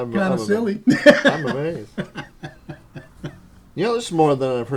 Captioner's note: laughter